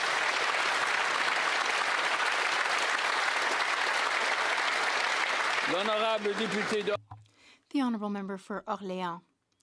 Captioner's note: applause